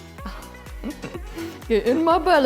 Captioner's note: laughing